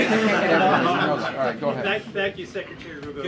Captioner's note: laughter